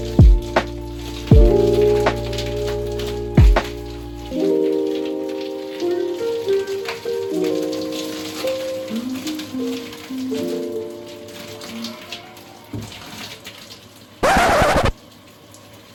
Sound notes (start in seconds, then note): 14.2 sound Effect - Record scratch